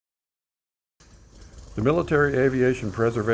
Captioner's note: propeller driven airplane idling